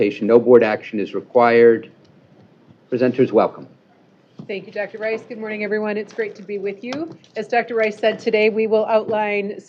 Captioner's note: none